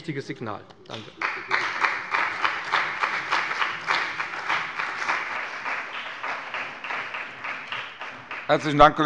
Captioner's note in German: Beifall bei dem BÜNDNIS 90/DIE GRÜNEN und der CDU